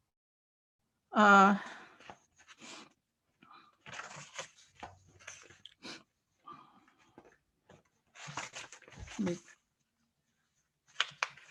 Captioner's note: silence